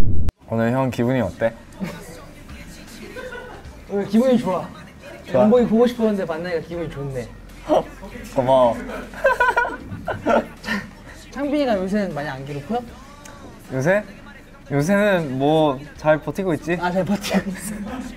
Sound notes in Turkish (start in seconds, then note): 2.7 güler